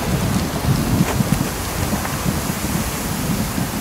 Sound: water splashing

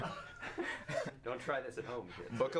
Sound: laugh

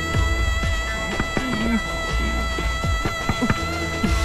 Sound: door knocking

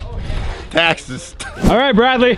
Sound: laughs

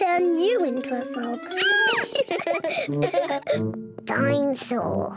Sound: squeals; both giggle

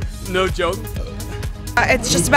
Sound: belching

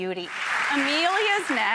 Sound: applause

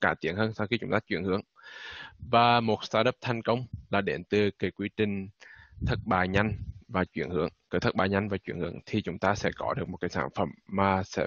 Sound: speaking Vietnamese

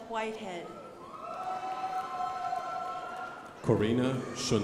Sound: crowd applauding

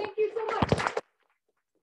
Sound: applause

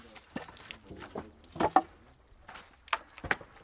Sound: wood rattles

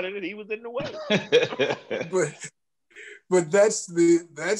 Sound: laughter

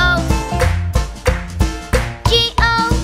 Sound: clap

